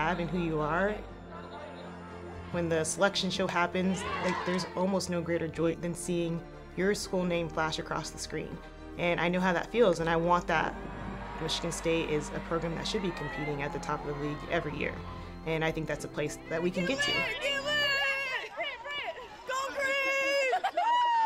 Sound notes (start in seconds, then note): 16.6 women cheering